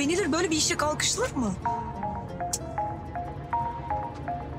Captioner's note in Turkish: Telefon zili